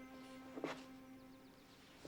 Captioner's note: sobbing